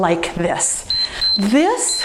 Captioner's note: timer beeps